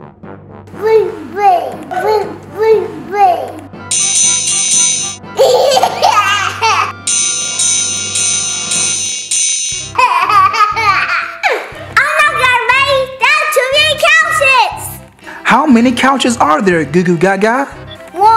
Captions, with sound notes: (ominous music) (baby talk) (dings) (laughs) (dings) (laughs) - Oh no, Gaga Baby, that's too many couches. - How many couches are there, Goo Goo Gaga?